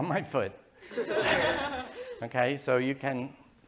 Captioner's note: laughter